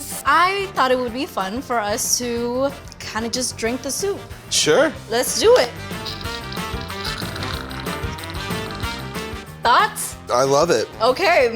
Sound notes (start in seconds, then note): 5.4 mouth sipping